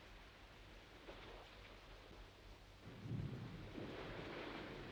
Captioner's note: water splashes